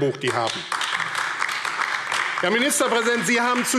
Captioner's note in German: Beifall AfD